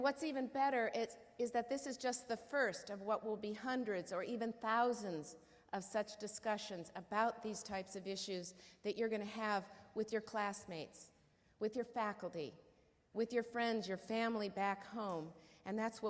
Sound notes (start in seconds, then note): none